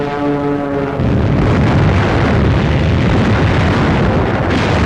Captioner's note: plane flying overhead; exploding; guns firing